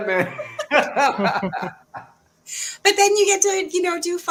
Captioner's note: jovial laughter